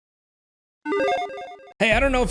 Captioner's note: 8-bit electronic bleep